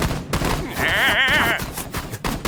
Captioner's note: yelps goofily